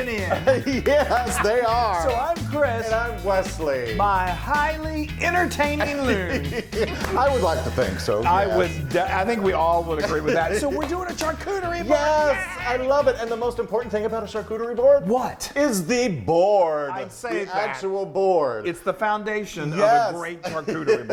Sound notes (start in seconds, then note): 0.0 laughs; 5.2 laughs; 9.5 chuckles; 10.7 claps